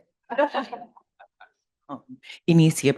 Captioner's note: everyone chuckling